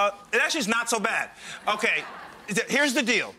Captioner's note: crowd laughs